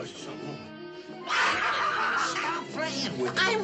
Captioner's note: shouts